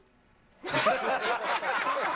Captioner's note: laughter